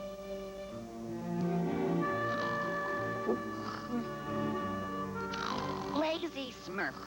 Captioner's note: snoring